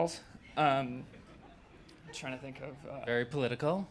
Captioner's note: laughter